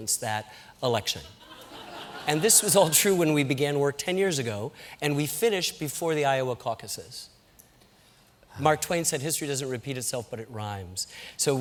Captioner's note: laughter